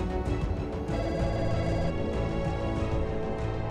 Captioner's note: phone ringing